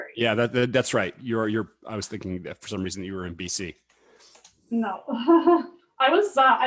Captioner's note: laughs